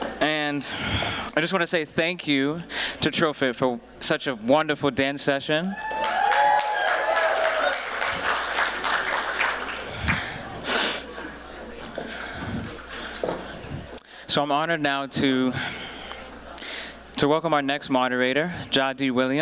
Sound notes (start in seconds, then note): 5.8 applause